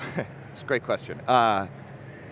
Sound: chuckles

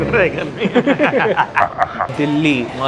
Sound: laughing

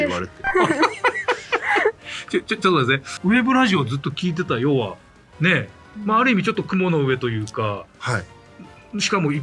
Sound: laughs

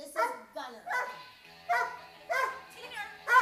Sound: dog barking

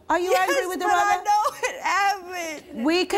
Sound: none

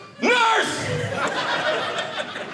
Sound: audience laughing

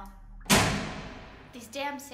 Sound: lights click loudly

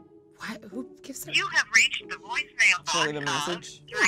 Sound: voiceover

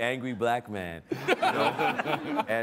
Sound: all laughing

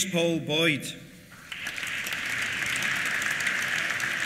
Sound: applause

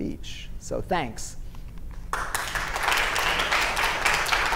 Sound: clapping

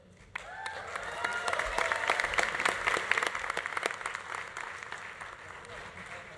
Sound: audience applauding; audience cheering

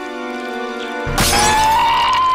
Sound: crash; wailing

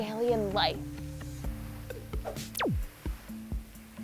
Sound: whoosh, pew

